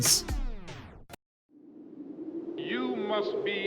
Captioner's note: wind